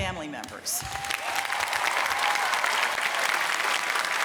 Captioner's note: applause